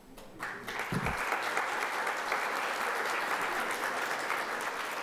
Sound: audience applause

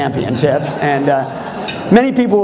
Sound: laughter

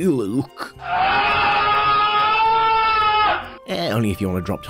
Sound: aggressive lustful screaming

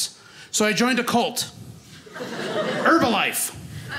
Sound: audience laughing

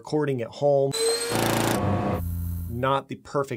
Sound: motors rumbling

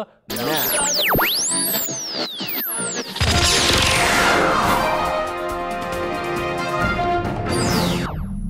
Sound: sound Effects

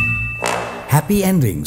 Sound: bell dings; horn blows

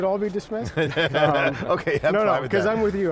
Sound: laughing

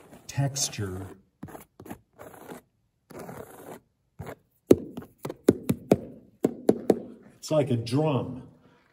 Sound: running hands over ribbed surface and flicking

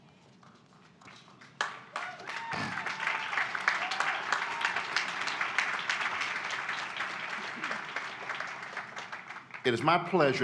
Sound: applause

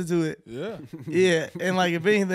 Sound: chuckles

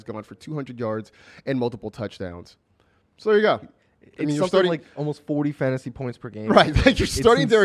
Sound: laughs

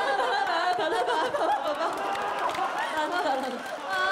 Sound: they burst into laughter

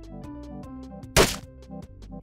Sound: splat

